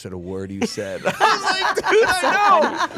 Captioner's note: others laughing